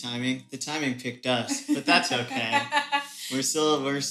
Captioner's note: laughing